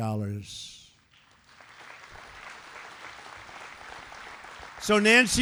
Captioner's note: applause